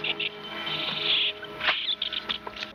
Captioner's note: chirping